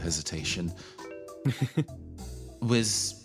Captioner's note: chuckle